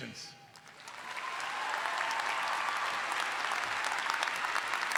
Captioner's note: all applauding